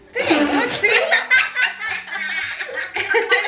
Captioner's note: everyone laughs